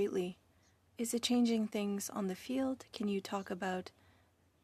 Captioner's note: speaking French